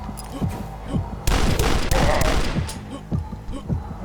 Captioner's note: Fast Fire Totem heartbeat; more shotgun fire